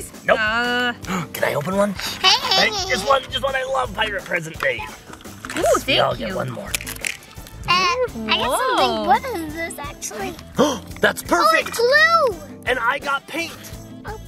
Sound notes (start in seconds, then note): 10.5 gasps